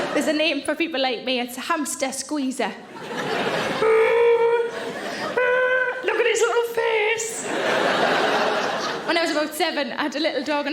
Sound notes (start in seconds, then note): 2.8 audience laughing; 3.0 Sarah groaning; 7.3 audience laughing